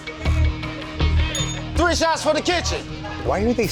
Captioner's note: bell dinging